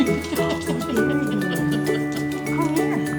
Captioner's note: laughs